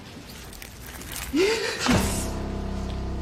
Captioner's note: gasps